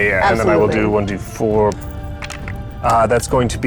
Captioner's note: die rattling